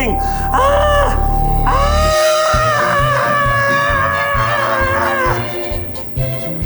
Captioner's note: playful music; screams